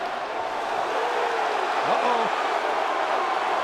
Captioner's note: crowd clamoring